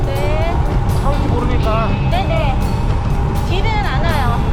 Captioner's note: cars coming